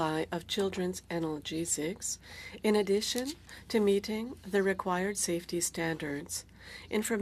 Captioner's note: speaking French